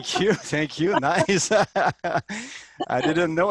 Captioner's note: laughs